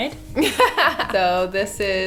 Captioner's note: laughing